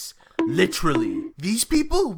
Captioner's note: bonk, bonk